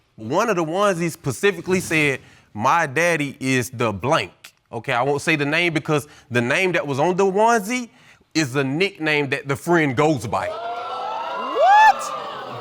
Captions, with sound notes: One of the onesies specifically said, "My daddy is the 'blank'." Okay, I won't say the name because the name that was on the onesie is the nickname that the friend goes by. (AUDIENCE EXCLAIMING) What?